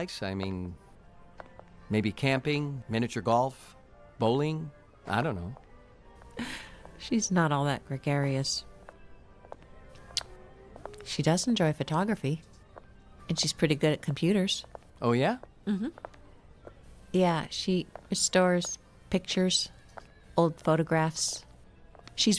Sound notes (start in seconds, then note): 7.2 chuckles